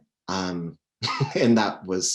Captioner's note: chuckles